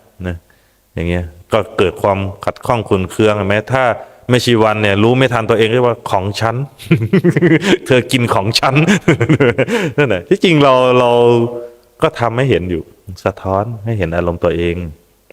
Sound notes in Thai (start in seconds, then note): 8.8 เสียงหัวเราะ